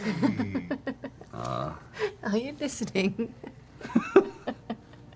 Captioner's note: laughs; laughs